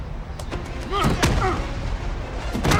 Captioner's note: groan